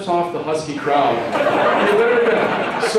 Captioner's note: laughter